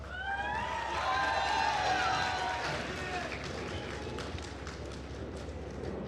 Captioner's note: attendees cheering and applauding